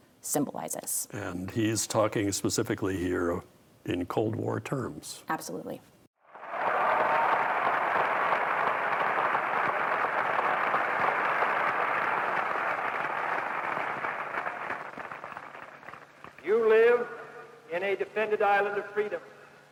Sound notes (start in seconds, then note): 7.7 crowd applauding and cheering